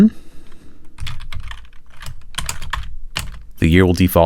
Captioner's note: typing